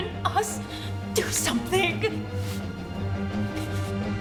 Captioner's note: sobbing